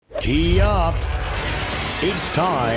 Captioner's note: voiceover